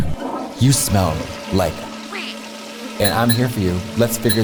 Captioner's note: beep